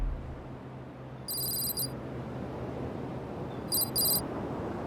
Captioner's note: text clicking